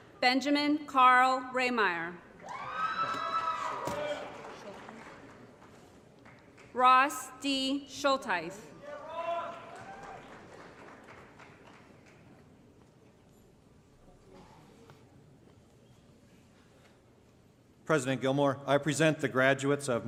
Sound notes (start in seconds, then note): 2.4 applause & Cheering; 8.9 applause & Cheering; 10.7 crowd Noise